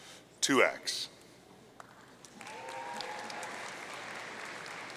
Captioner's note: audience cheering